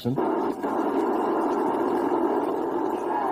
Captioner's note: radio static